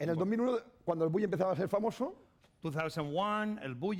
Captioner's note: speaking spanish